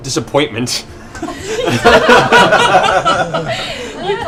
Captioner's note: laughter